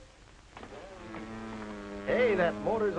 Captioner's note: mimics motor running